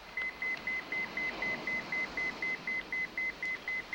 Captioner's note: pager beeping